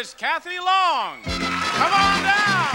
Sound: audience cheering; lively jazz music

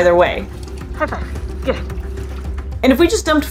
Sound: gentle water splashing/lapping sounds

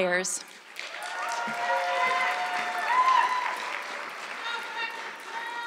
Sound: audience clapping

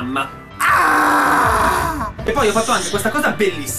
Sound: frightened scream

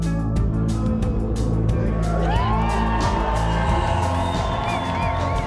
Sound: audience cheering; mellow music

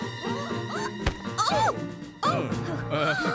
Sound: thud!

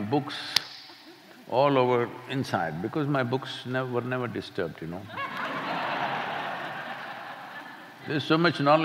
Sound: laughter

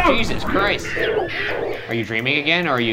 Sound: game whooshing

